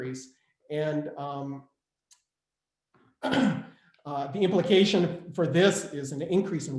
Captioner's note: clears throat